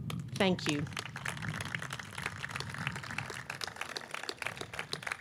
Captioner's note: audience clapping